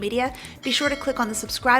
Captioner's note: bell rings